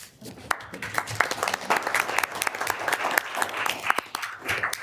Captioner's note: audience applauding